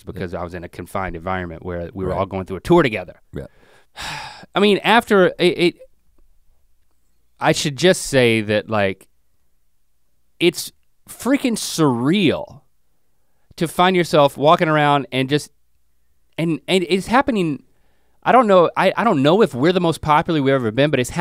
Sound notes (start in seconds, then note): 3.9 sighs